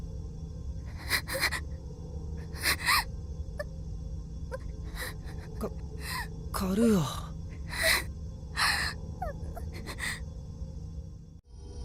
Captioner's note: tears